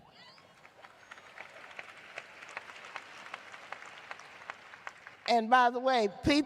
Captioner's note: cheers and applause